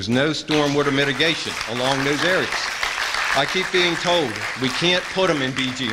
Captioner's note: applause